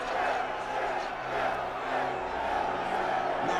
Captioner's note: crowd shouting